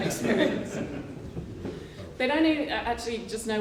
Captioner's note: laughter